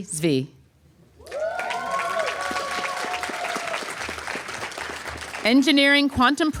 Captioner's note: applause